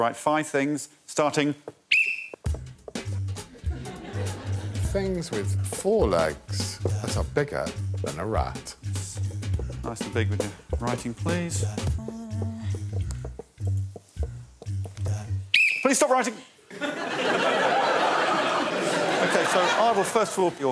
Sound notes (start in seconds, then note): 1.9 blows whistle; 4.3 jazz music playing; 17.1 blows whistle; 18.6 laughter